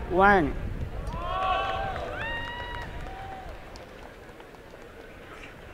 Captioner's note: applause and cheering